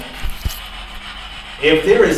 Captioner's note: static buzzing